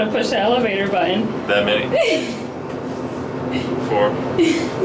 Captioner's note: laughs; laughs